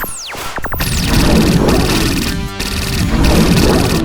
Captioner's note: portal whirring